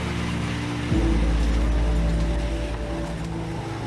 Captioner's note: mud squelching as engine revs